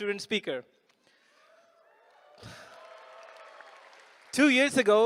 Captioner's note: cheering